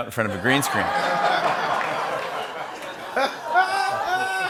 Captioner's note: laughter